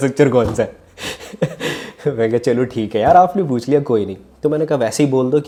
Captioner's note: laughs